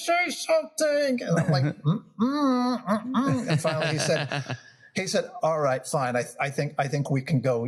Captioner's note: laugh